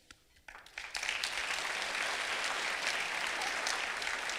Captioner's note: clapping